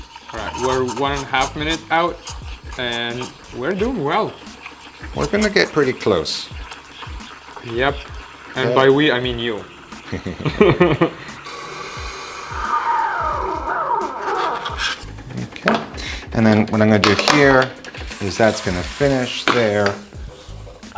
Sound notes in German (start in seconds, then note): 9.1 lachen